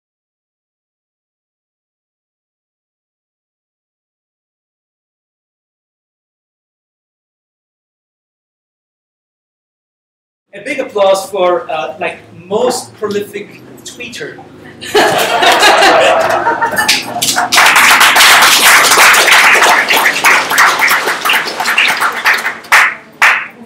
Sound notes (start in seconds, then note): 14.7 laughter; 16.6 applause